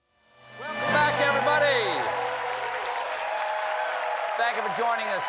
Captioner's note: applause